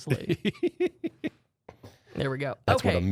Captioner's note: softly laughing